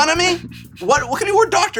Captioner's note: chuckles